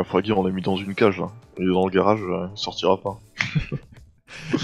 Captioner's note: laugh